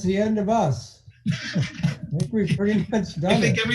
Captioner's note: laughing